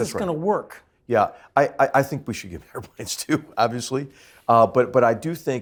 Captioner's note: laugh